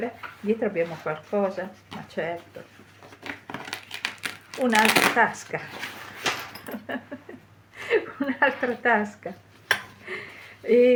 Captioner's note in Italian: risate